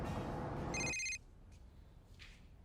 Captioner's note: phone rings